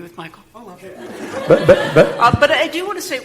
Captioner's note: laughing